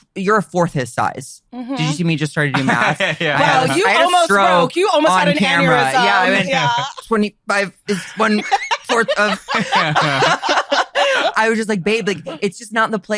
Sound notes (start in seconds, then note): 7.8 laughs